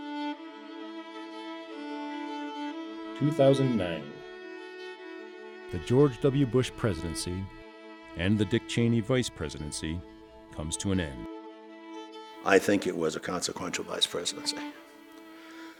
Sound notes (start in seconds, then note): 3.1 voiceover